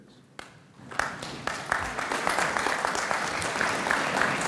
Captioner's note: audience applauds